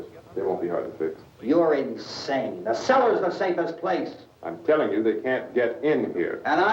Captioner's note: none